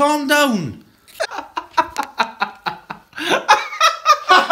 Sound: more laughter

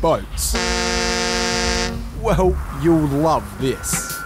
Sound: ship horn blares

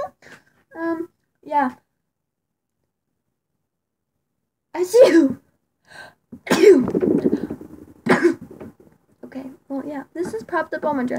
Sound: fake sneezes

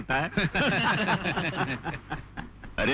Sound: laughs

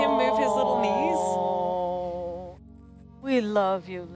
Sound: people awing

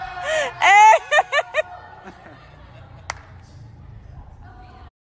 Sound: professor yells; yells and laughs

